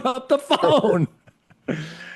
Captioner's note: laughter